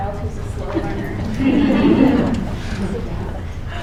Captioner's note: laughter